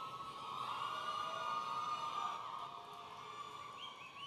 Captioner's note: audience cheering